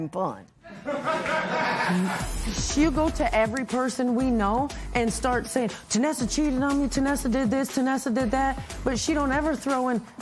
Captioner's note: laughter